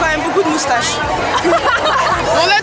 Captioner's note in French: rires